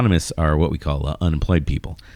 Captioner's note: uh